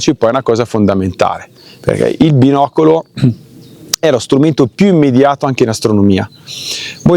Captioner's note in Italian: schiarire la voce